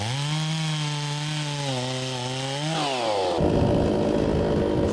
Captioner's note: saw buzzing continues